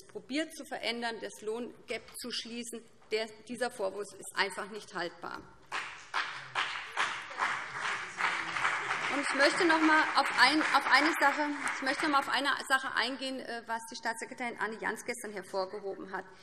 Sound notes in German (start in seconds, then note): 5.6 Beifall BÜNDNIS 90/DIE GRÜNEN und vereinzelt CDU